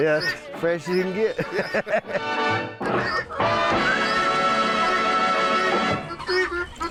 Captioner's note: laughs